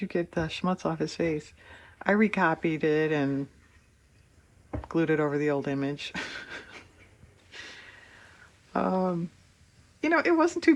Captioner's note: laughs